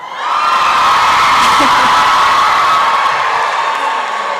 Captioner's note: applause and cheering